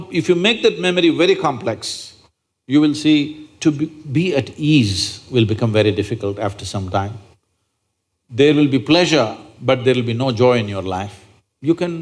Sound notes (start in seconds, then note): none